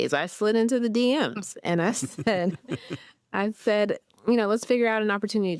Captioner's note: everyone chuckles